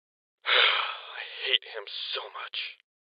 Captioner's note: sighs